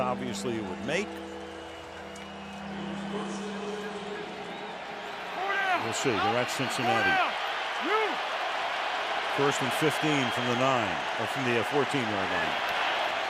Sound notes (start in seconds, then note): 3.9 pa announcement